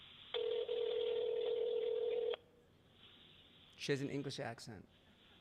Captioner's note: phone ringing